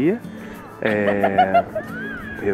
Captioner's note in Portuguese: risada gostosa